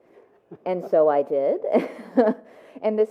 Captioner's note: laughs